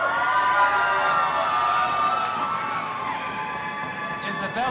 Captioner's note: audience applauding and cheering